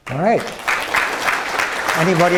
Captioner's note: attendees applaud